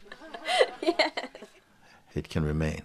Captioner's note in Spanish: risas